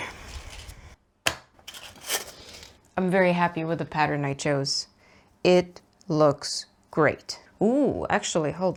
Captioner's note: pins jangle in a metal box